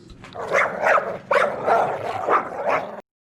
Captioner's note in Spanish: Ladrido de perro maldito